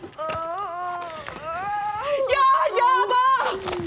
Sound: mother crying out

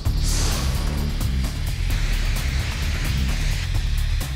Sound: gas hissing

